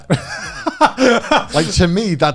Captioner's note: laughing